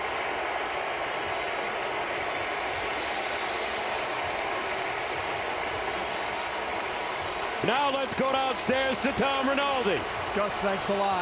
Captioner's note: cheers and applause